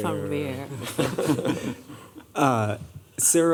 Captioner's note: laughter